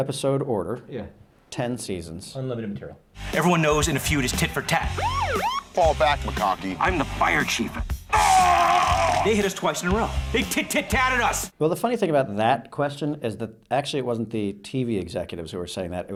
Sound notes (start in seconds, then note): 4.9 police siren; 8.1 screaming